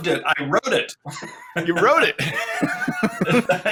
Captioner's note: chuckles